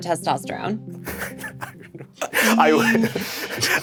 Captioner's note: all chuckling